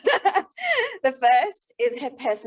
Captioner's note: laughing